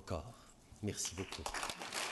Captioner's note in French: Applaudissements